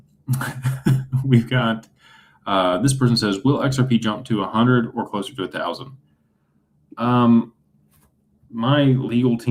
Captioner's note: laughter